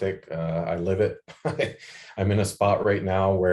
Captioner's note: laughs